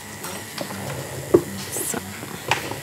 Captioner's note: whirring